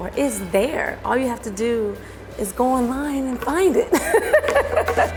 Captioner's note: laughter